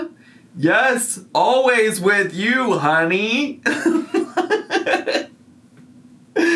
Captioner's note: laughs